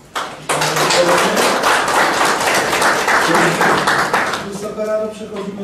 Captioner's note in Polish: oklaski